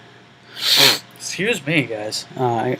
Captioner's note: sniffing